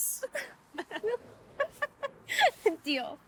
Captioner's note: both laugh